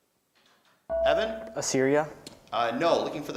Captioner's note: beeping